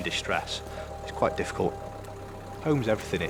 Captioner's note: tractor droning